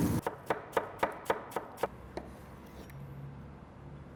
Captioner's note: chopping